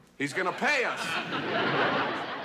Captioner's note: laughter